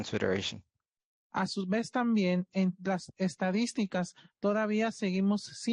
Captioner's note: speaking Spanish